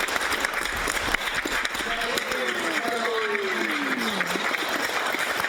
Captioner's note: applause